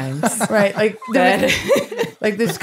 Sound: laughing

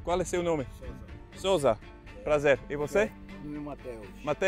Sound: speaking Portuguese

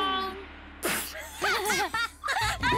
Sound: laughter

